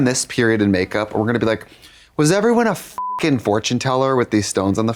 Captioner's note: beep